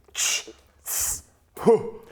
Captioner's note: tssss